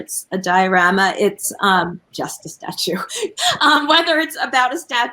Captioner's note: laughs